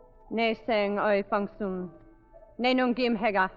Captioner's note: light music; speaking foreign language